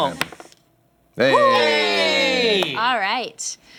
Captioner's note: cheering